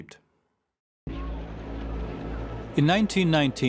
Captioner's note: indistinct street chatter